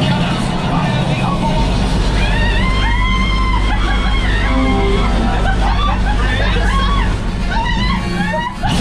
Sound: screaming

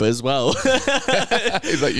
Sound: laughing

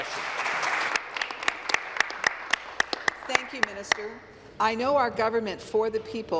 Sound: applause

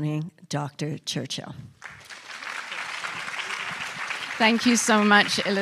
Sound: applause

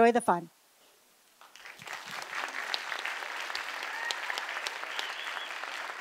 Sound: applause

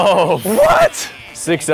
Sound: laughs

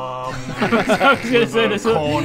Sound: useless giggles

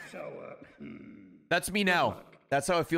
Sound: laughs

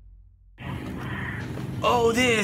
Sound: over intercom: breathy moans

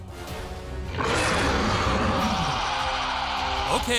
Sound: dinosaur roaring

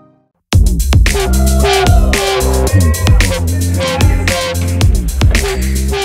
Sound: crowd screaming

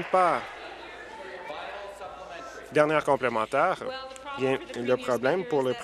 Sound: applause

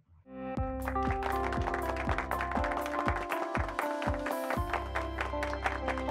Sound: upbeat music; hands clapping

